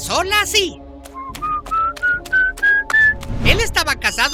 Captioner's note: man whistling